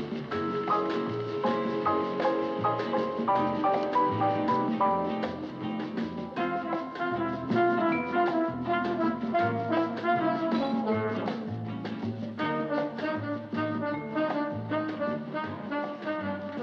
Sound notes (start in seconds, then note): none